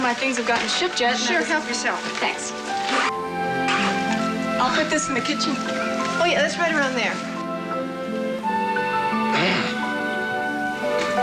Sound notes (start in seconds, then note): 7.7 grunts